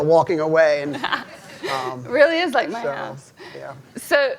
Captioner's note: laughs